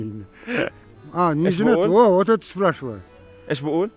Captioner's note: speaking in Kyrgyz